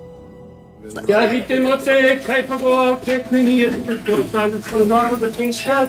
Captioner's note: speaking in foreign language